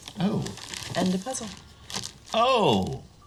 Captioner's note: none